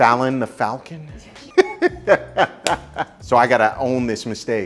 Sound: laughing

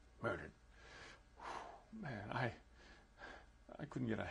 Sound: sighs

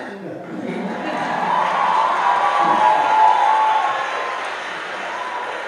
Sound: audience cheering

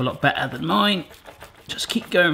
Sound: knife cutting lamb

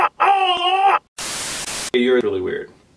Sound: yelling; static

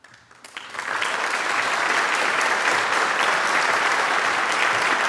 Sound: audience applauds

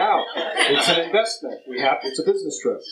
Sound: laughter

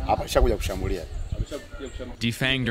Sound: speaks in foreign language

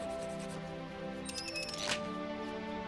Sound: beak creaks

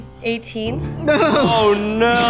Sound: groans

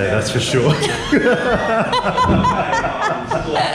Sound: laughing

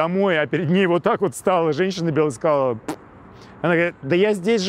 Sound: blows raspberry sharply

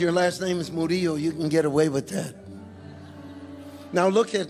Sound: congregation chuckling

